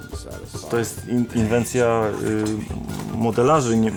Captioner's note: in Polish